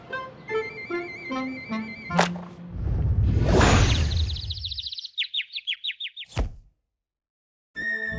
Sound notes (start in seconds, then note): 4.0 birds chirp